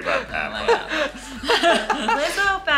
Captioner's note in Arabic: يضحك